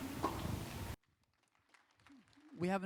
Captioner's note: applause